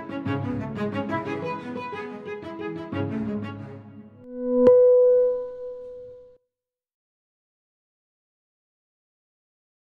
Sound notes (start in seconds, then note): 4.2 electronic chiming